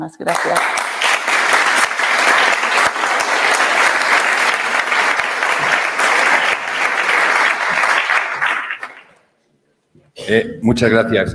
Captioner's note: applause